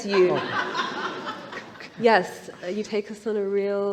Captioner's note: laughter